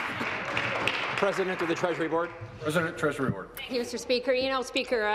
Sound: applause

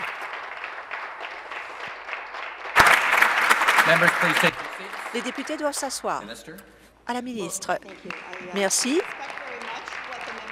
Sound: applause

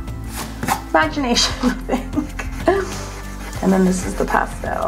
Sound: chuckles

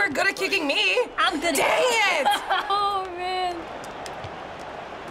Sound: laughing

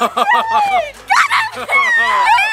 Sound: laughing

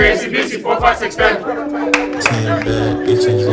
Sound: clapping

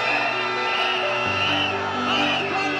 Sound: cheering

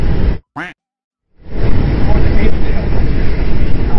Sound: duck quacking

